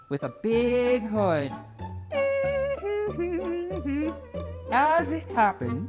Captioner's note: Red hums